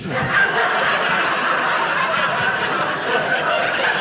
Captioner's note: audience laughing